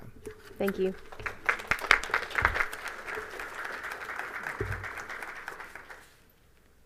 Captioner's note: applause